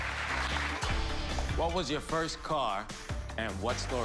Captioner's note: cheers and applause